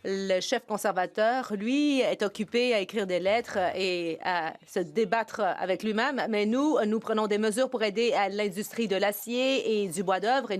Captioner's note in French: voix de l'interprète